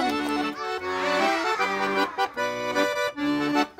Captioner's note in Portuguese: Sons de admiração